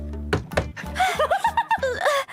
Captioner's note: laughter